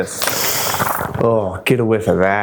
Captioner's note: inhaling new book